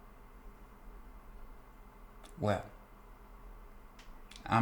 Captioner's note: none